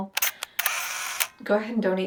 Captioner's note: camera shutter clicks